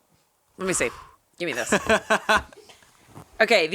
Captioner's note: laughing